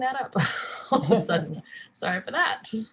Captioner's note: laughs